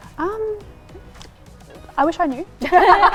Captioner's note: laughs